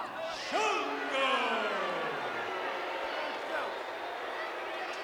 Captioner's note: crowd boos